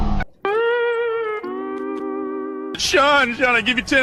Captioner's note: jumpscare stinger; SpongeBob fail sound effect